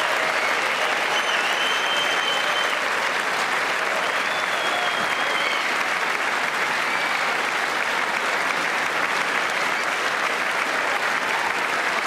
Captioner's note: applause